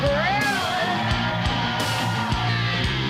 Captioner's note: crowd cheering